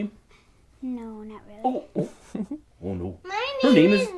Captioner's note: giggles